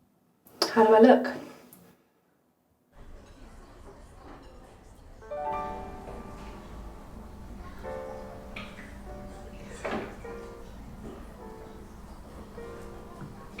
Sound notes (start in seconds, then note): 5.1 gentle music; 7.5 people chattering